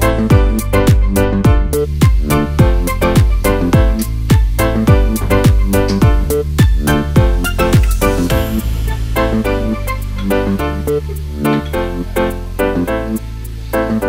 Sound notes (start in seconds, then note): 1.8 water running; 4.8 electronic house music